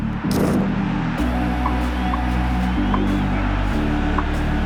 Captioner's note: camera and crowd sound